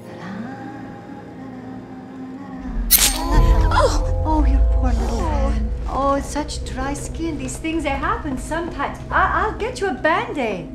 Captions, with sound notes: La lalalala. (tool slices) (Maddie moans) Oh, your poor little hand. Oh it's such dry skin, these things they happen sometimes. I'll get you a band-aid.